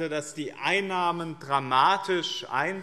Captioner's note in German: none